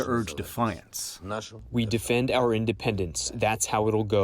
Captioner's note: through translator